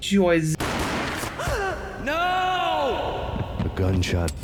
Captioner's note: gunshots, mona is hit and gasps